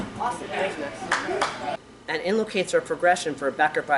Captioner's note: claps